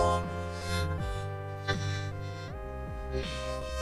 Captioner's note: grunting